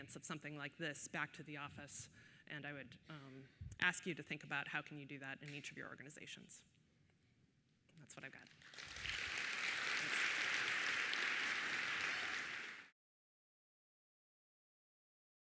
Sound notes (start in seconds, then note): 8.5 audience applauding